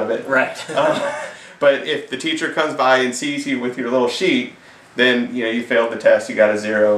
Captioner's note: laughs